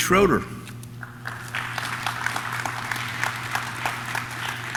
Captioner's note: audience claps